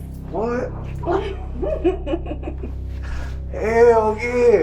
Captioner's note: girlfriend laughs